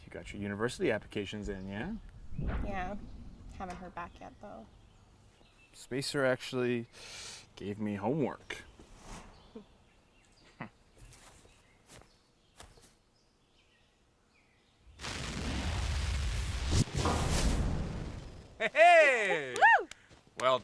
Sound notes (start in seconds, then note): 14.8 fire crackling; 17.0 metallic boom